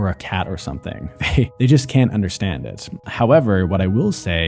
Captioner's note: chuckles